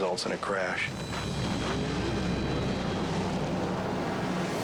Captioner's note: boat crashes